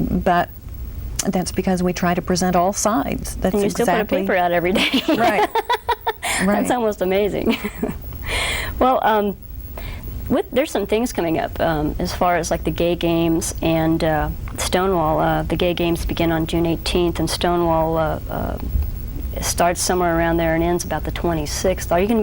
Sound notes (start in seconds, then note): 4.7 laughs loudly